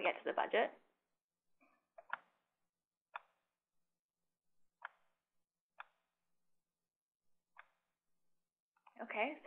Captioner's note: typing Sounds